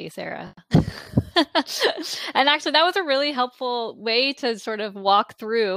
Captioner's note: laughing